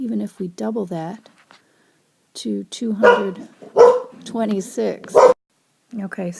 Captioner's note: dog barking